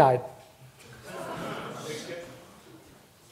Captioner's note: audience laughs nervously